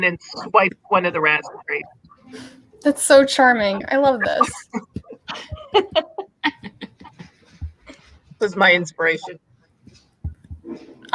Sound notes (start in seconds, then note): 5.2 laughing